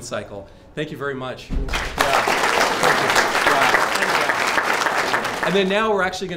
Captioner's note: applause